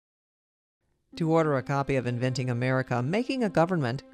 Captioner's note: voiceover